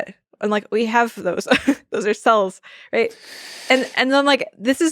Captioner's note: chuckles